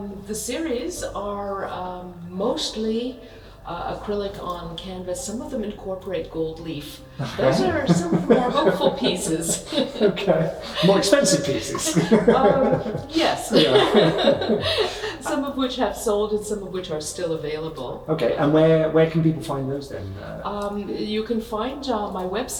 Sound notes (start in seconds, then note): 10.8 laughter; 11.8 laughing